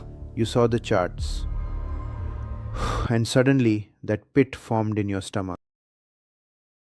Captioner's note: exhales sharply